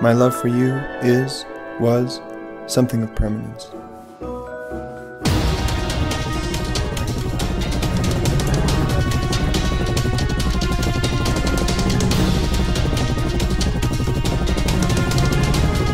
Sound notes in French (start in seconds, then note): 5.2 Musique épique; 7.4 Bruits d'hélicoptères